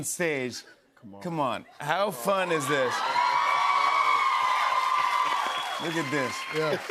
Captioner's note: cheers and applause